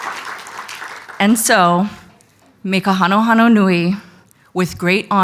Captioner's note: speaking foreign language